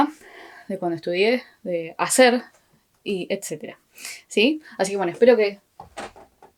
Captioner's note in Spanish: golpe